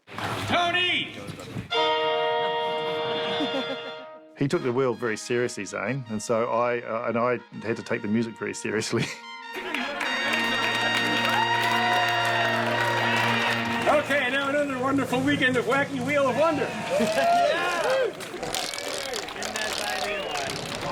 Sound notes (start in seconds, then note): 9.5 crowd cheering and applauding